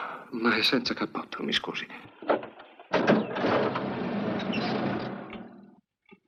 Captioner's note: engine starts